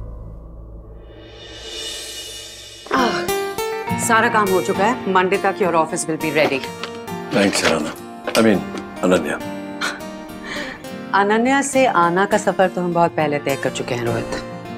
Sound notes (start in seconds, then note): 2.8 Ananya exhales; 9.8 Ananya laughs